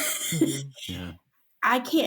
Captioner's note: small laughter